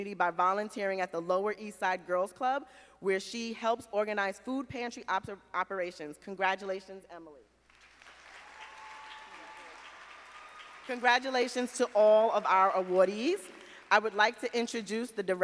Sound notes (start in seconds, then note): 7.7 audience applauding